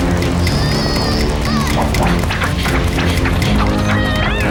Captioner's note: grunting